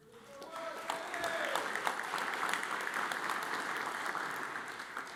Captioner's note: audience applauds